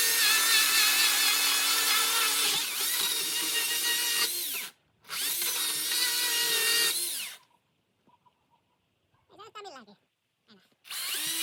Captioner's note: sounds of sawing